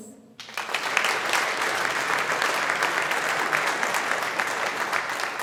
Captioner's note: audience applauding